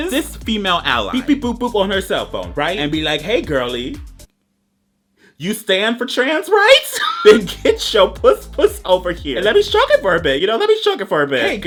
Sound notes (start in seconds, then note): 6.9 laughs